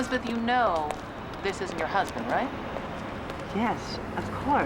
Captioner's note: none